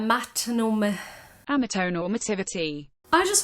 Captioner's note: sigh; TTS voice